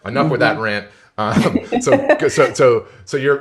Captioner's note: laughs